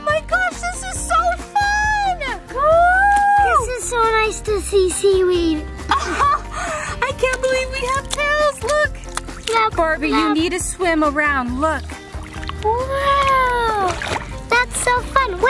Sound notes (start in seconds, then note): 5.8 mom laughing; 6.2 tails splashing; 14.1 mermaids splashing